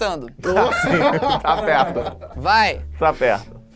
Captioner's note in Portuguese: risadas